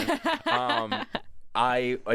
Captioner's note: laughs